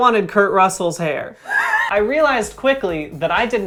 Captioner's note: laughs